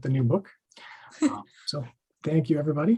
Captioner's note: laughs